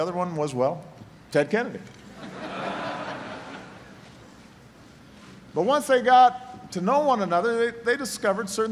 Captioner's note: laughter